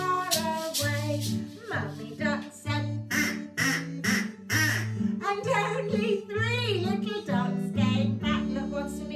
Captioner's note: quack, quack, quack, quack